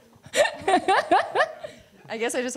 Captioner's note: laughs